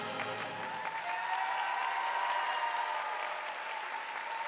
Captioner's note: audience applauding